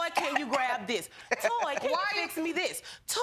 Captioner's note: chuckles